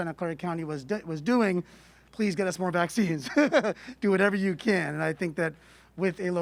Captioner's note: laughter